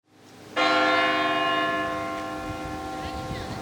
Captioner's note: bell rings